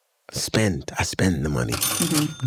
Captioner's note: cash register chiming